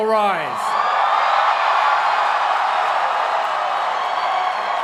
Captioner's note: cheering